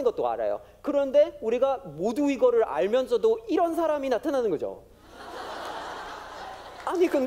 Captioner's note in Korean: 웃음